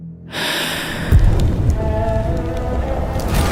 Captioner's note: bells toll